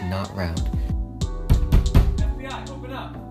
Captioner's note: banging at door